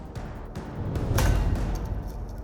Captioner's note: clang